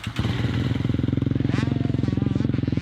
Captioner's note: engine starts, sputters